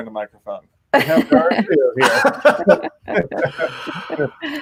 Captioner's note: laughing